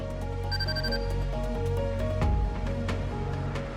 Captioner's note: device beeps